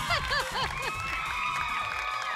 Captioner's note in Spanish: Risas